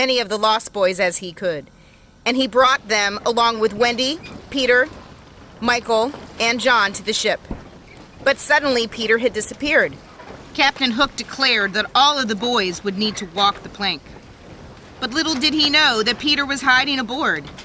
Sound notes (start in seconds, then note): 6.7 ship sounds: birds cawing, planks creaking, wind rustling the sails